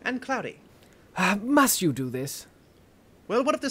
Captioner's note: sigh